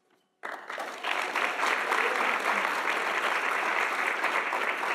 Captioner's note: audience applauding